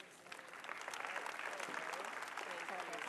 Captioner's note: applause